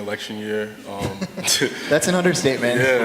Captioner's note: laughter